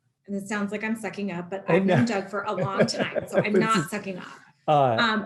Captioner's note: laughter